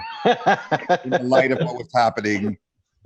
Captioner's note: laughs